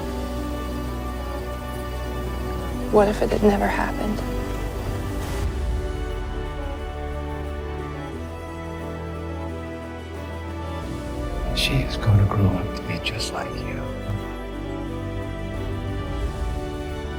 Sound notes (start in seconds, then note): 11.6 voiceover